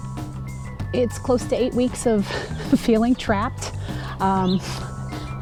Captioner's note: chuckles ruefully